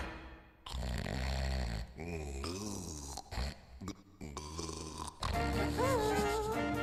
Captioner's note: snoring